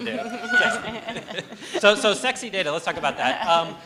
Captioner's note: laughter; cheers and applause